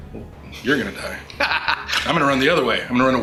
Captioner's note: laughs